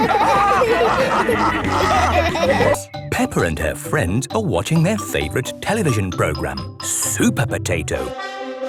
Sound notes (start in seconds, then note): 0.0 all laughing; 8.1 trumpet sounding